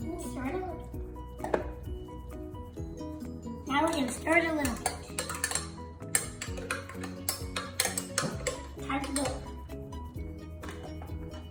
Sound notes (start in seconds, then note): 5.7 glass clanks